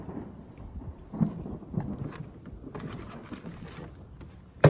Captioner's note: thunder rumbles